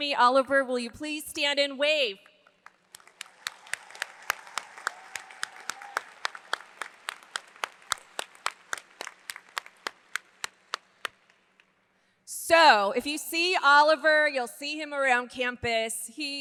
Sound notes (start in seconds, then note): 2.4 hands clapping; 2.6 audience applauds